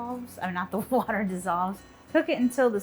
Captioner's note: laughs